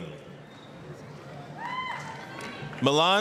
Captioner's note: applause, cheering